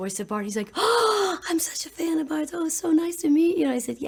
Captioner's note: gasp